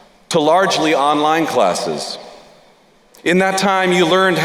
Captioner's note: none